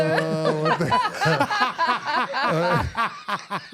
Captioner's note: laughing